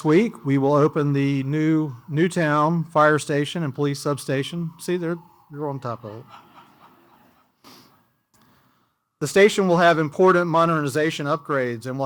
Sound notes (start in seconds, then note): 4.3 sirens